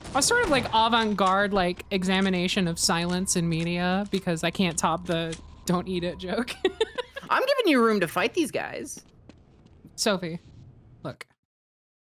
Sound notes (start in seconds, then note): 6.5 laughs